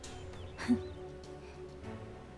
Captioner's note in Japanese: 軽い笑い